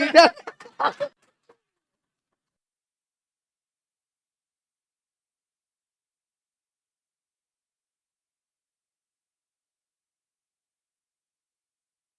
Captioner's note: laughs